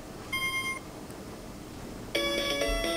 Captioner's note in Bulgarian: звукови сигнали